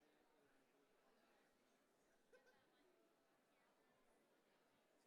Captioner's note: audience chattering